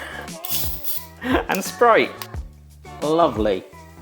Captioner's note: hiss of cap opening